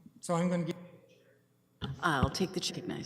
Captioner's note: audio drop